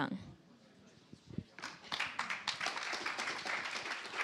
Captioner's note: applause